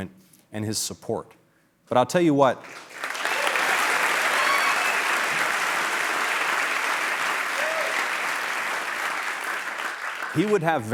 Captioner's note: applause